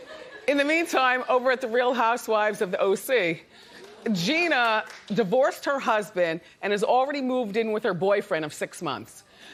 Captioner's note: laughter